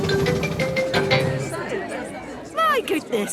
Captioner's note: all murmuring